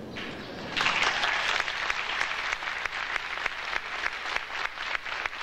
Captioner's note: audience applauding